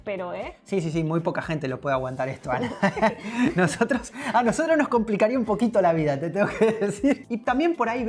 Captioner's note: laughs